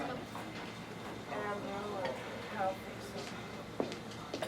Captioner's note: people chattering